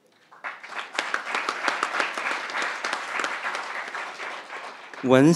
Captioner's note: crowd applauding